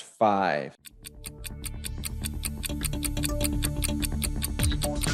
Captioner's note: clock ticking